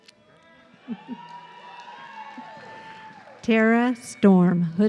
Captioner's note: audience cheering